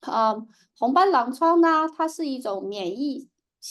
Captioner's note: speaking chinese